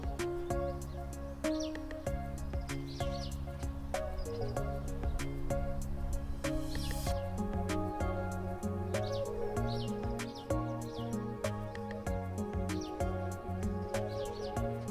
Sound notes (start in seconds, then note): 0.2 subtle music; 4.3 birds chirping